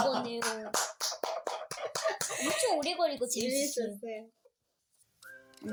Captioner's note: clapping sound